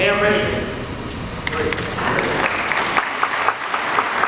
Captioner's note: audience applauds